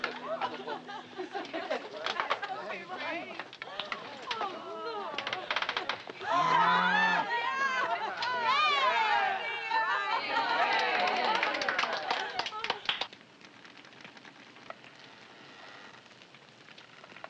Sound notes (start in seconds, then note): 0.2 laughing; 6.2 cheering